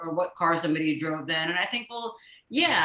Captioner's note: none